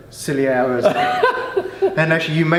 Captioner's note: laughing